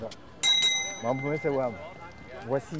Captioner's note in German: Glocke läutet